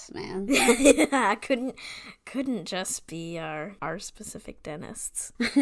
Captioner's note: sarcastically